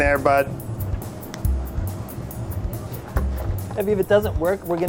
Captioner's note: snapping